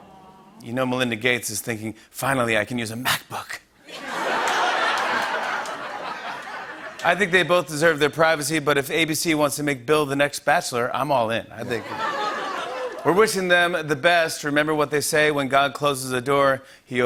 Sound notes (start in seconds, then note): 0.0 awws; 3.8 laughter and applause; 11.6 laughter